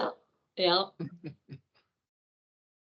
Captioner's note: chuckling